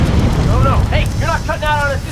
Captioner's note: fire crackling